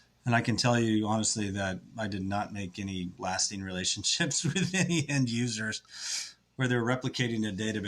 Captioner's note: laughs